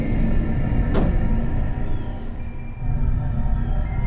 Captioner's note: trunk thuds